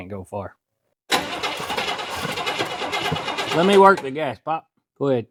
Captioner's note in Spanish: Motor Rumbling